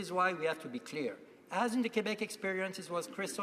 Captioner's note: speaking French